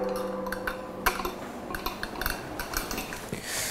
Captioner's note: quiet clacking